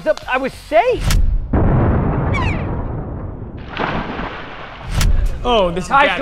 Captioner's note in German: explosion